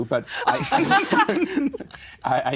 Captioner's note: all laughing